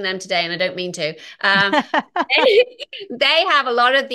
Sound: laughing

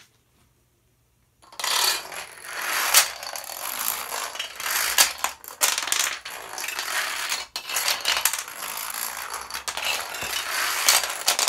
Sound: dominoes falling

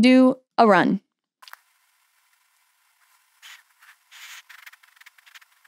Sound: processing sound

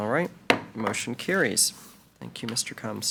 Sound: gavel bangs

